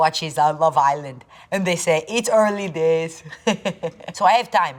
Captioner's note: laughing